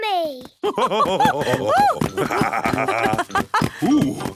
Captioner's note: both laugh